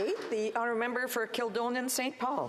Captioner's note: applause